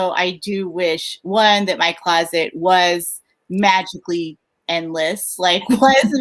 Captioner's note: laughs